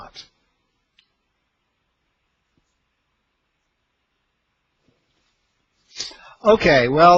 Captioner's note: silence